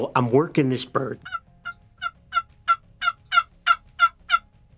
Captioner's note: turkey calling